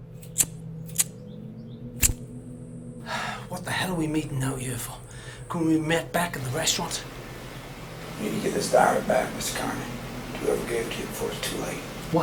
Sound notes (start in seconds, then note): 0.1 lighter clicking; 3.0 sighs